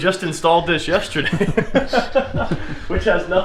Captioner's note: laughing